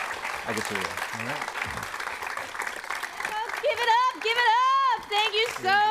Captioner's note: applause